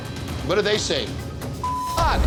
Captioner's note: beep